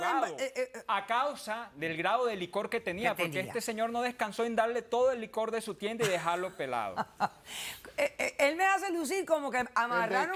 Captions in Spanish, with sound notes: >> AHOGADO A CAUSA DEL GRADO DE LICOR QUE TENÍA, PORQUE ESTE SEÑOR NO DESCANSÓ EN DARLE TODO EL LICOR DE SU TIENDA Y DEJARLO PELADO. [RISAS] >> ÉL ME HACE LUCIR COMO QUE AMARRARON AL HERMANO